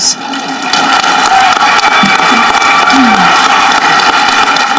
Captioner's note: audience clapping